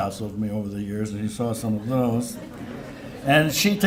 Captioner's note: laughter